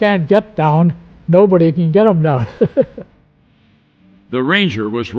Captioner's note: laughs